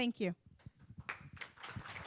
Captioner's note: applause